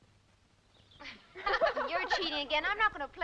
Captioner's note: girls laughing